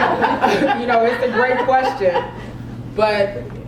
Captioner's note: laugh